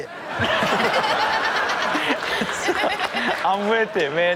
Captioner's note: all laughing